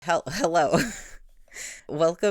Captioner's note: laughing